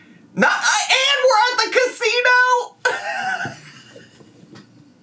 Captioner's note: laughs